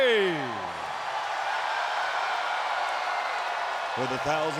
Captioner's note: crowd cheering